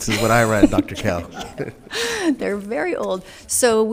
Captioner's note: laughs